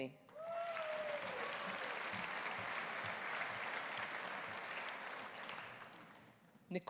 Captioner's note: audience applauding; audience cheering